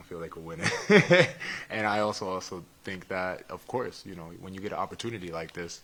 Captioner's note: laugh